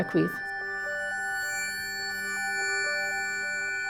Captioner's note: sound feedback